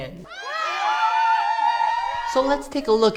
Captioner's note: cheering and shouting